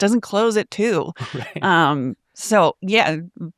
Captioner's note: chuckles